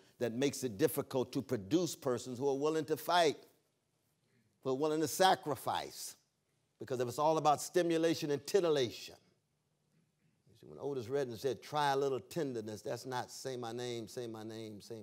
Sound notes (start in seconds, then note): none